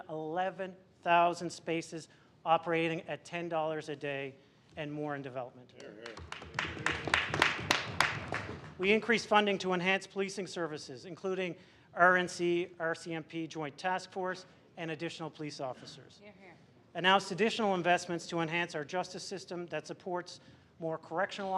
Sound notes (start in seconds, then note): 9.6 applause